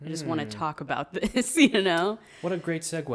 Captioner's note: laughs